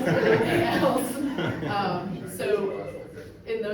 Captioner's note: audience laughs